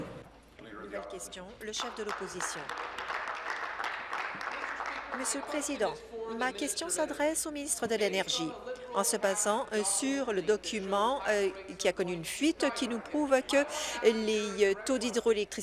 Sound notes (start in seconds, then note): 5.4 applause